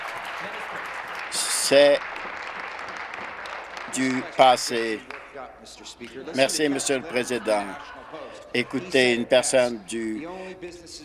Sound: applause

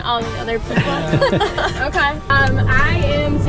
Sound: laughing

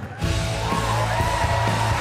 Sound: applause

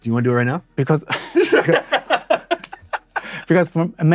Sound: both laugh heartily

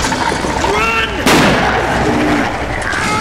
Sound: pow; scream of pain

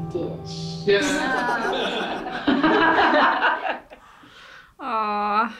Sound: group laughs

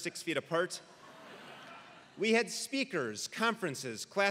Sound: laugh

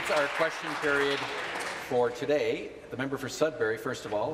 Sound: applause

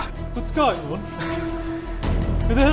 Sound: brummie accent

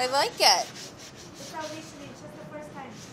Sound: scrubbing

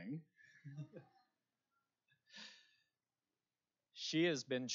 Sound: laughter

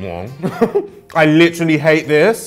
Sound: laughs

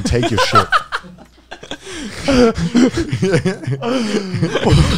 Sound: everyone laughs

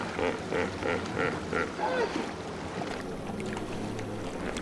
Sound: hippo grunting

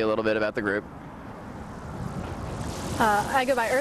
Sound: street sounds - cars passing

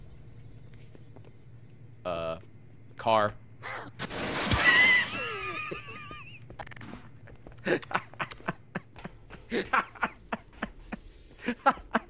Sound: laughs

